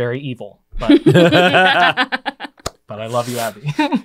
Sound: laugh

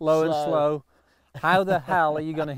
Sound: laughing

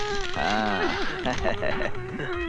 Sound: laughs

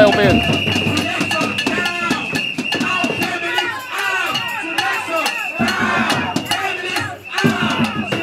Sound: protesters chant

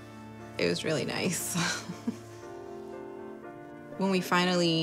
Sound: chuckles

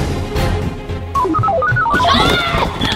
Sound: robot noises; screams

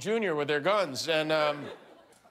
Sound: laughter

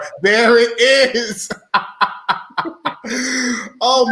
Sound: laughing

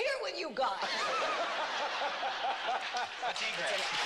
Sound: laughter

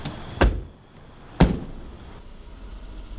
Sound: another door noise; door noise

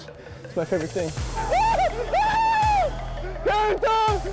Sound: cheering

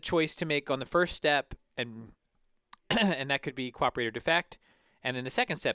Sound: cough

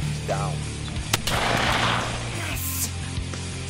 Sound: gunshot

